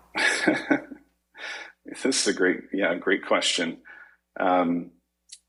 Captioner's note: chuckles